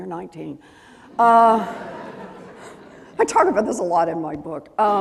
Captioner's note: laughing